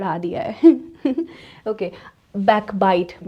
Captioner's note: giggles